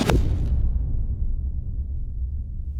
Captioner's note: boom echoing